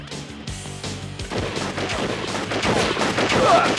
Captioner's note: gunshots